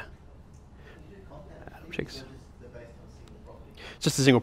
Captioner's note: voiceover